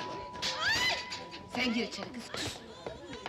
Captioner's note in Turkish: kadinin çiğlik sesleri̇ kesi̇li̇r